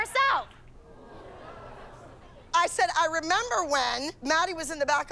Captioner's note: audience groans